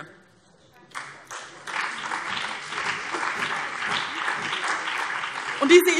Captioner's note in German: Beifall BÜNDNIS 90/DIE GRÜNEN und CDU